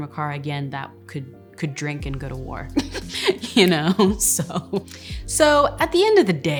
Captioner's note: laughs